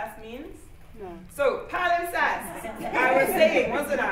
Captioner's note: laughter